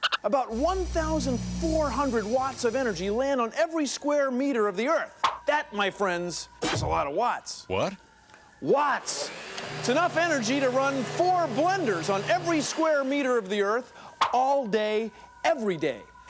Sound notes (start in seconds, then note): none